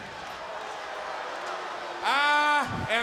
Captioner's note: crowd boos